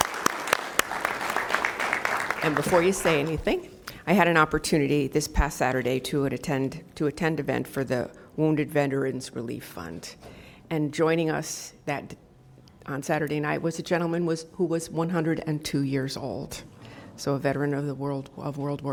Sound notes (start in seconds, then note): 10.7 applause